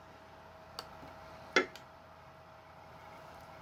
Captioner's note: click sound; laptop dvd drive spinning